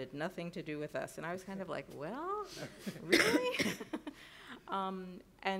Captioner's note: laughs